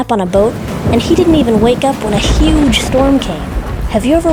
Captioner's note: thunder, rain